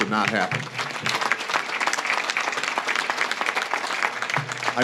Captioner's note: audience claps